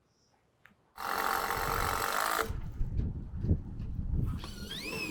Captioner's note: machine drilling